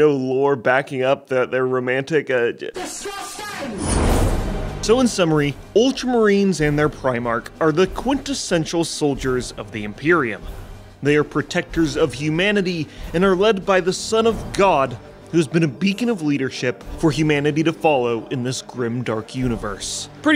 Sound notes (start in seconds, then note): 2.9 Roboute screams indistinctly